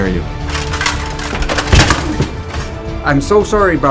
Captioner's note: armor clanking